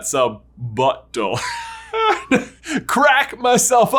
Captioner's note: laughing